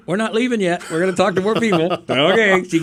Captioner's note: laughing